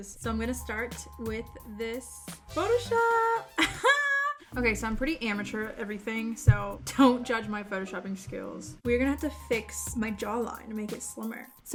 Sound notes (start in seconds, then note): 3.7 laughs